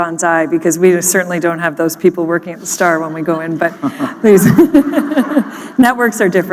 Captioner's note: laughter